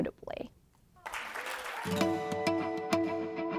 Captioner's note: applause